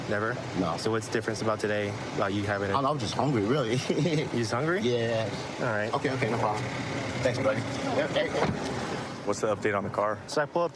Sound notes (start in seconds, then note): 3.6 laughing